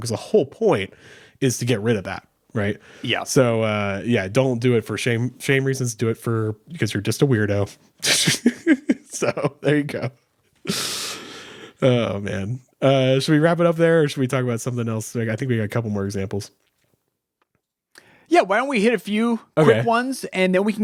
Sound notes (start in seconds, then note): 8.0 laughs; 10.6 sighs